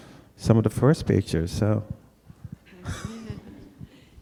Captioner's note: laughs